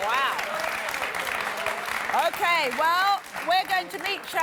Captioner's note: clapping and cheering